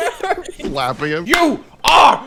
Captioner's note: slapping him